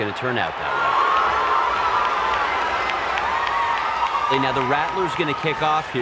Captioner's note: crowd cheering